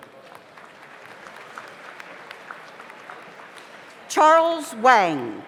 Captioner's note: audience applauds